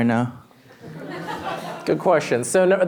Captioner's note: laughter